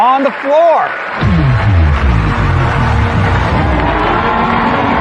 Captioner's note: cheer